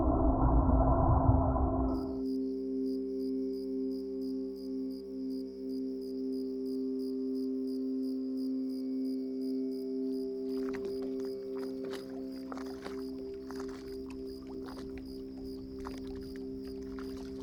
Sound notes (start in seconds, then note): 0.1 gentle music; 6.8 water splashing gently; 13.4 crickets chirping